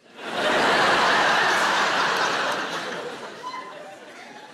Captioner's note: audience laughing